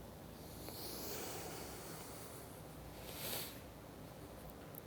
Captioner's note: exhales softly